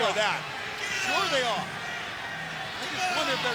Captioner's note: crowd cheering